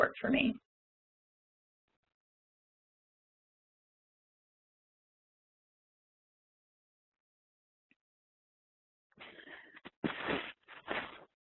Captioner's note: silence